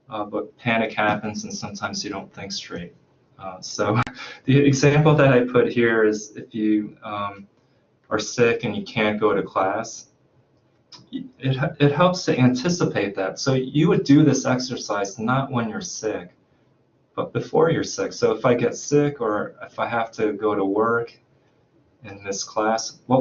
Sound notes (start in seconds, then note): 3.4 chuckles